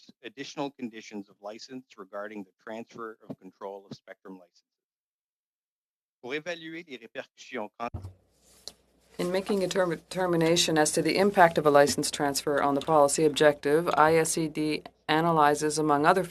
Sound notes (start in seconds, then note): 9.3 speaking French